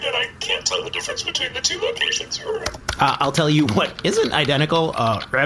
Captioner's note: typing